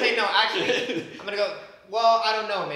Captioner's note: laughs